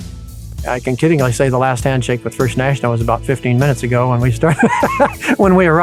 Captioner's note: laughs